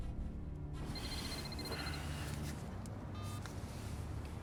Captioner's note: phone rings; phone beeps